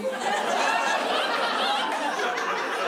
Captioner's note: laughter